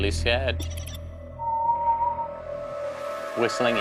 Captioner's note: whistling